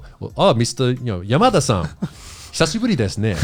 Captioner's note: all laughing